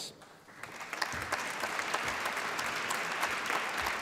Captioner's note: applause